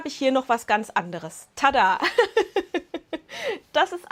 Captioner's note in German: Lachen